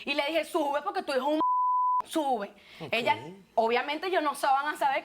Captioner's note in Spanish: Bip